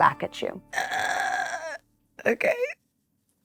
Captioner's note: groaning